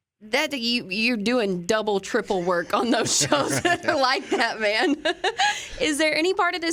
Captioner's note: laughs